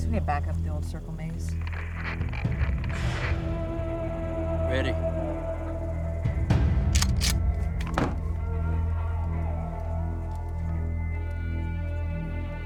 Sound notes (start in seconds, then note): 1.9 static crackling; 6.9 shotgun slide clicking